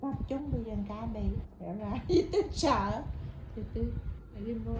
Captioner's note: laugh